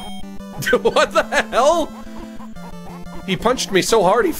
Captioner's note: laughs